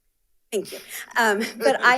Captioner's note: attendee laughs